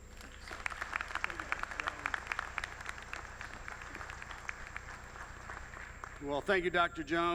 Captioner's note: applause